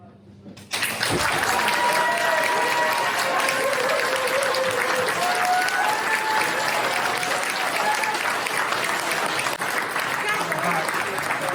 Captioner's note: applause